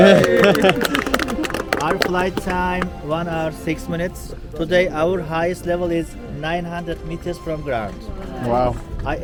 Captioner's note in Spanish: ovación